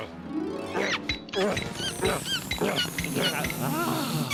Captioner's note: panting; air hose squeaking